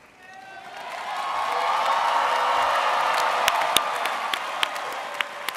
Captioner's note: audience cheering and applauding